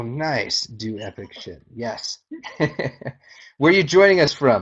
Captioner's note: laughing